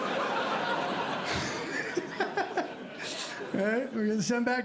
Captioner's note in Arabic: يضحك